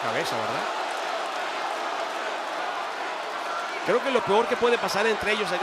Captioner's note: applause